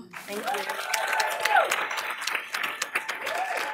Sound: applause

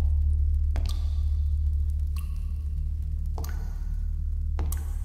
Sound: water droplets sound

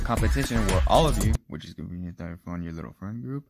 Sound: whispering

